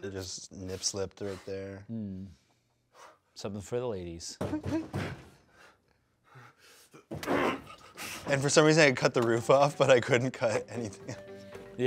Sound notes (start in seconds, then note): 4.5 banging